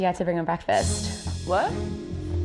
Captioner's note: beep